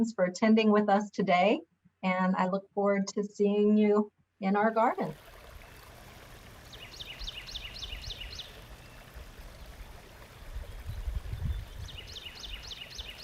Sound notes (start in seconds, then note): 4.5 water babbles; 6.6 birds sing